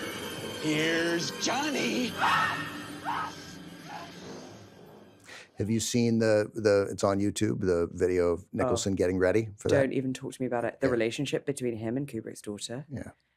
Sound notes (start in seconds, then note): 3.0 screams